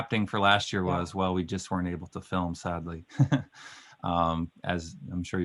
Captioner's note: laughing